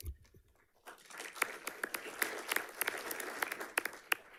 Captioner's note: audience clapping